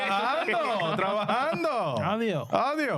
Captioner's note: speaking In Foreign Language